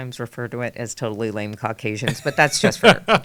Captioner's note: laughing